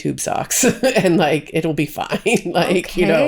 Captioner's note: laughs